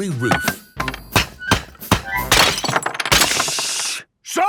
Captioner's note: banging, crashing